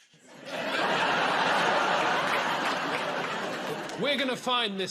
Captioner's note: laughter